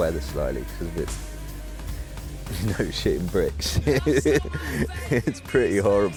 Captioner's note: laughs